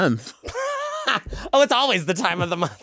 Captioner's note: laughing